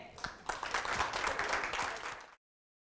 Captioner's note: applause